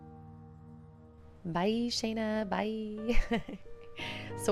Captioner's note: laughter